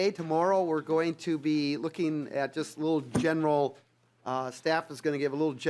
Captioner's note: gavel